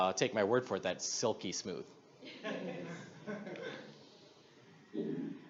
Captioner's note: audience laughs